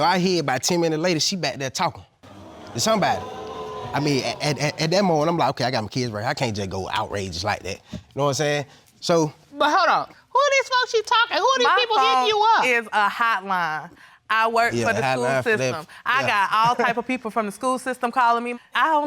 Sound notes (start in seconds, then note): 2.2 audience booing; 14.8 stammering